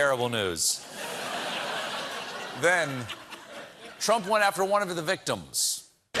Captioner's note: laughter